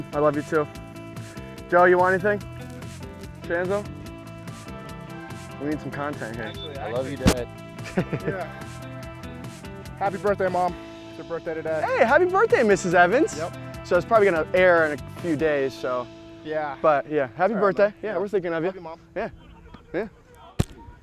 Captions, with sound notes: Joe, you want anything? Shanzo? I need some content here. - I love you, Dad. [chuckling] - Happy birthday, Mom. It's her birthday today. - Hey, happy birthday, Mrs. Evans. - Yup. - So it's probably gonna air in a few days, so... - Yeah. - But, yeah, happy birthday. Yeah, we're thinking of ya. - Love you, Mom. - Yeah, yeah. Good work.